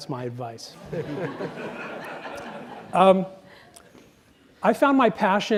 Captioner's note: audience laughs